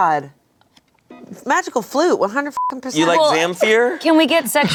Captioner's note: beep